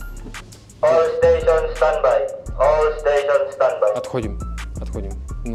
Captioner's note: announcement on speakerphone of departure